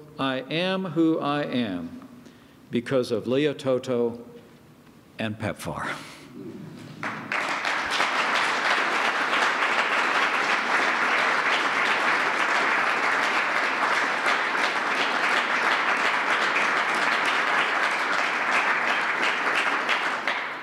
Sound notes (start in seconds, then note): 6.9 applause